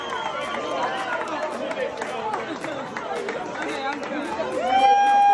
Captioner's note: crowd cheering